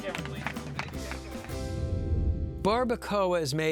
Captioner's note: crew applauding